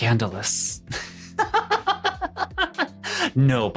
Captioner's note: laughing